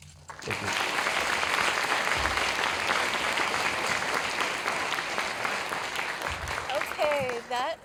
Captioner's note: applause